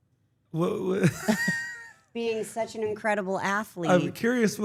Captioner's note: laugh